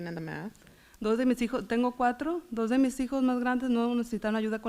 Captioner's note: foreign language